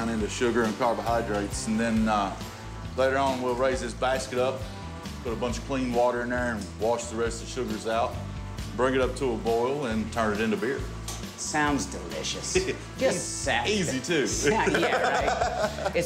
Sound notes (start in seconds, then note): 14.4 laughing